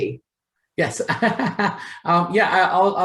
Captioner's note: laughs